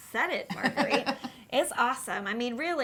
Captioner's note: laughing